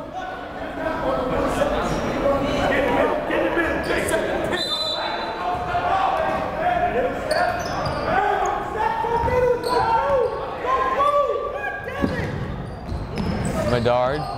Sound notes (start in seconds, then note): 1.6 chattering; 4.5 whistle blowing; 7.7 yelling